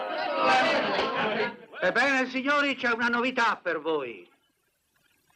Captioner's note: laughing